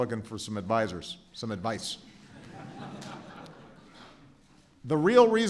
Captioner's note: laughter